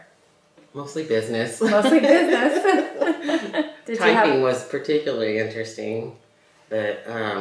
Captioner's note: laughter